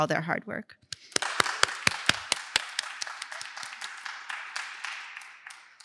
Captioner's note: applause